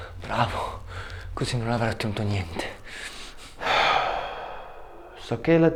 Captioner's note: Martin and man speaking foreign language